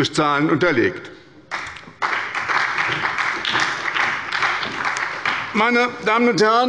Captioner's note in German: Beifall bei der SPD